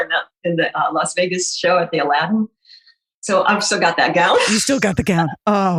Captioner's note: laughing